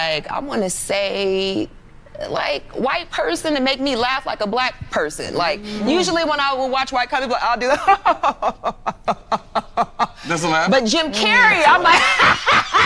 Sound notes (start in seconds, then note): 7.7 fake laughing; 10.8 guffawing